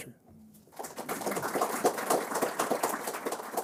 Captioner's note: applause